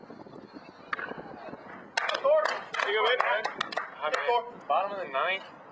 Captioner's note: applause